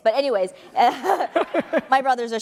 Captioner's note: laughing